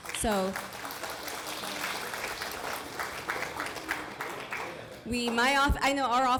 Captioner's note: applause